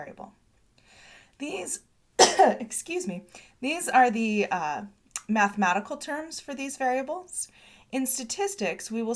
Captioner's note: cough